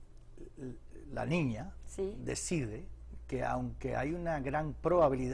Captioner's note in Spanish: habla en inglés